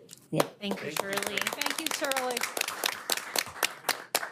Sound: applause

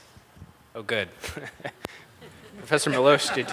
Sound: everyone laughs

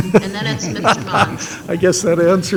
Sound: laughs

